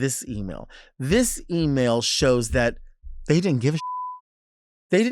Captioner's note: beep